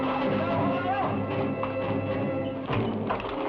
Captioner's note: man shouts; suspenseful music